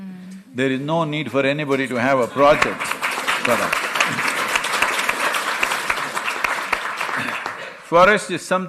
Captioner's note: applause